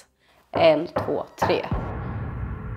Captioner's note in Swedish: Tre knackningar